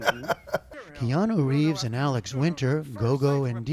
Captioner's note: laughter